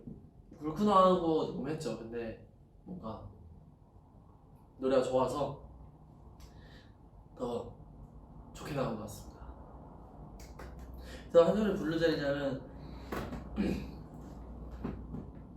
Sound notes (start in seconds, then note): 13.5 clears throat